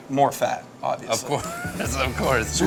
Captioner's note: laughing